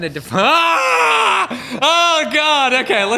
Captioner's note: horrified screaming